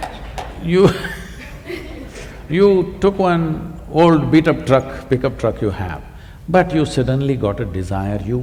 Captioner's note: laughs; laughter